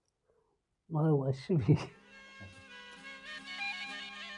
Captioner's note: chuckles; solemn music